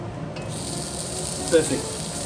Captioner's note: oil sizzling